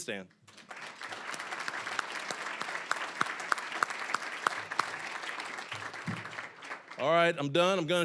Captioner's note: applause